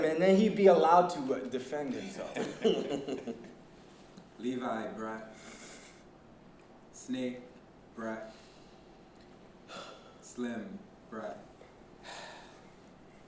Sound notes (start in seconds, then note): 2.2 chuckling